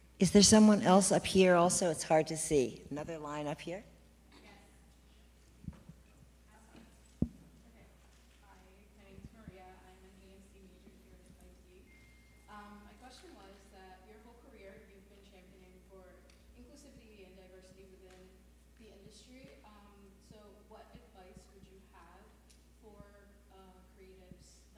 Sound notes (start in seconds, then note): 4.5 distant off-screen voice